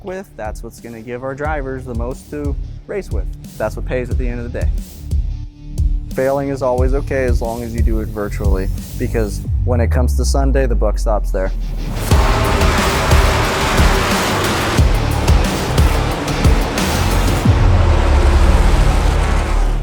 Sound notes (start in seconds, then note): 11.6 rock music; 11.8 loud race sounds